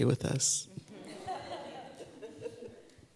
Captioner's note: laughter